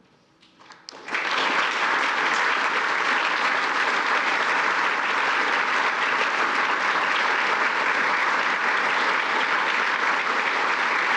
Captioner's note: applause